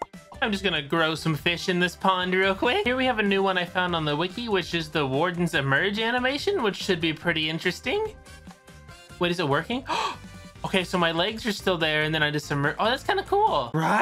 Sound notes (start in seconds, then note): 9.8 gasp